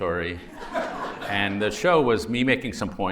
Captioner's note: laughter